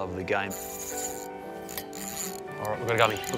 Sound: rod clicking rapidly

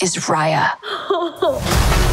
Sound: laughs

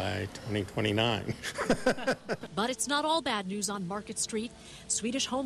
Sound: laughter

